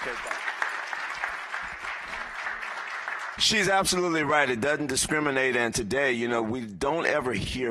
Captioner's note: applause